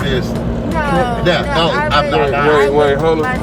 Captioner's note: laughs